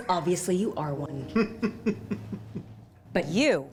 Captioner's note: laughs